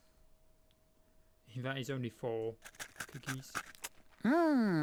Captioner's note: eating sound